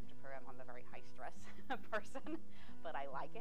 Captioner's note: laughing